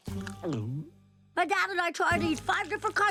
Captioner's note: munching, gulping